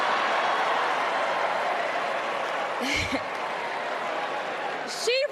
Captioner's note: applause